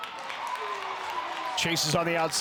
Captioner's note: crowd cheers